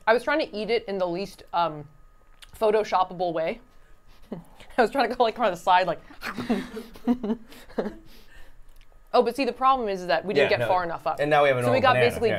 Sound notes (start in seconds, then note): 8.8 laughs